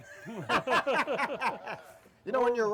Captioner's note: laughing